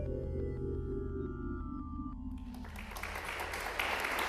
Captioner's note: applause